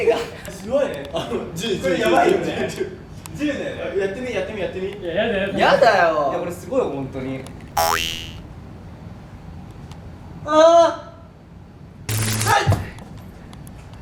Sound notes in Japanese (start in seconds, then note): 12.1 電流の効果音; 12.5 声にならない声